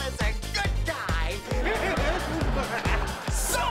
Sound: laughing

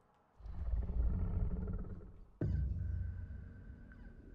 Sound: dinosaur growls

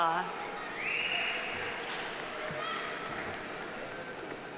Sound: audience applauding

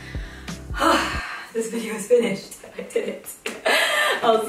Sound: sighs

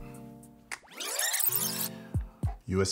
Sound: fast-forward screeching

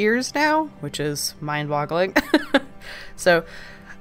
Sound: laughs

